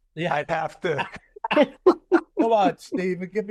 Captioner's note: laughter